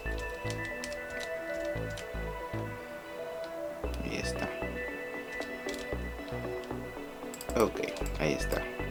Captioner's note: typing